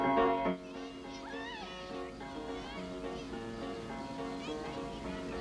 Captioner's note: girls shouting happily